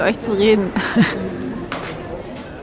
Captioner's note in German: lacht